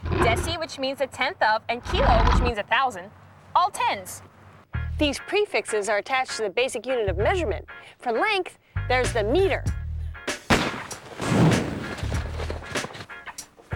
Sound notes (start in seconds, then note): 10.4 starter's pistol fires